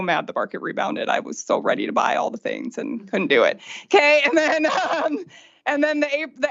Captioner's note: laughter